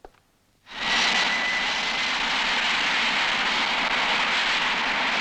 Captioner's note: airplane engine whooshing